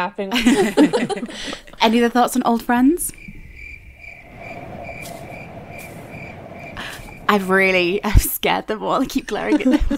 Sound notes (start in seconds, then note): 0.4 laughing; 3.3 crickets chirping